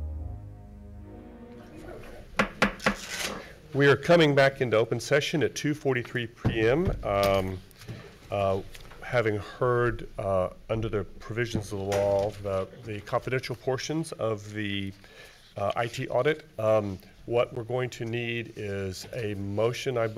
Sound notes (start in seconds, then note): 2.3 gavel bangs